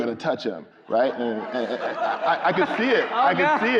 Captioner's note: crowd laughing